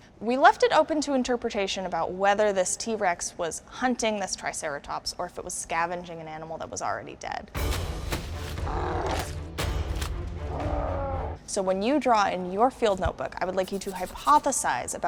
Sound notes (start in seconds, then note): 7.5 dramatic music; 8.6 roaring